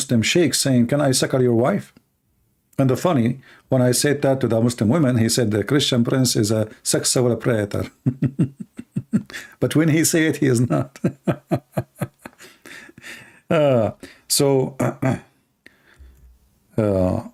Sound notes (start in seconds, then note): 7.8 Ketawa